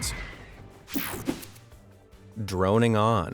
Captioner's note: air whooshing